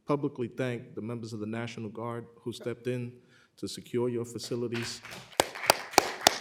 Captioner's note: applause